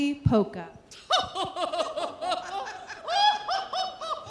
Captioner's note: all laughing